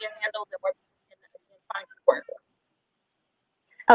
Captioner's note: murmurs